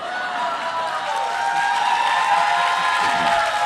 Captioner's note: applause